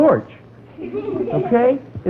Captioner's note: students laugh